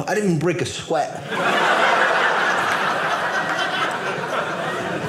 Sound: audience laughing

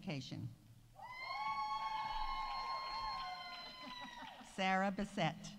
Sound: audience cheering

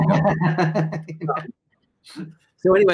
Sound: laughter

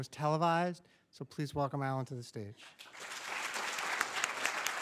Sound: audience applauds

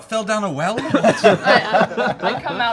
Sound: laughing

